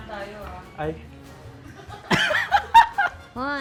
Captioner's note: laughs